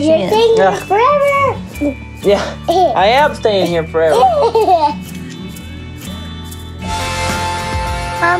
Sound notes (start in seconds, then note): 4.1 giggles; 6.9 harmonica music